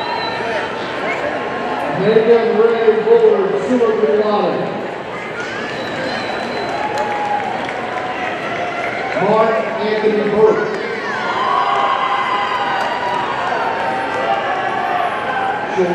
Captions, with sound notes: Megan Rahe Bullard, summa cum laude, (audience applauding) Mark Anthony Burke, (audience cheering)